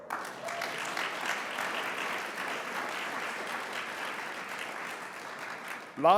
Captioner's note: audience applauds